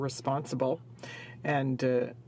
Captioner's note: speaking in french